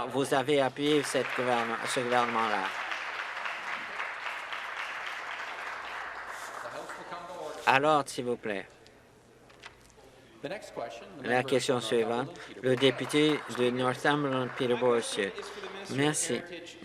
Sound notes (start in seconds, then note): 5.4 applause